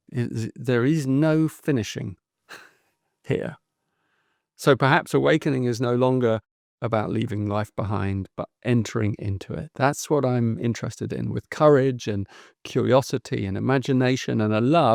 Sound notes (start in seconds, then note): 2.5 chuckles